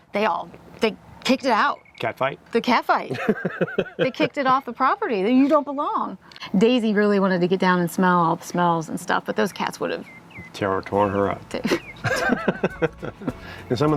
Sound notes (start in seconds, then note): 3.1 chuckles; 11.6 chuckles